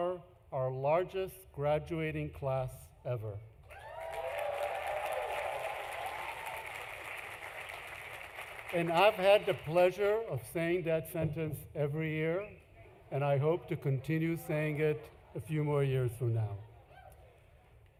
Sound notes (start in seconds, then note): 7.3 applause; 7.3 cheering